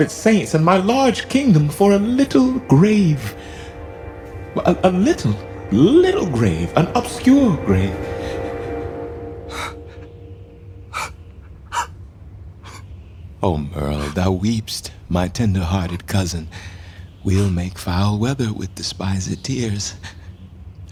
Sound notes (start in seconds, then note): 9.6 gusting winds; 11.4 soft crying